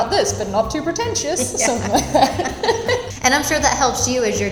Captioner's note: laughing